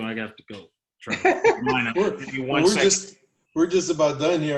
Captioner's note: laughter